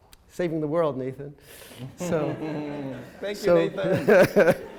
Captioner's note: laughter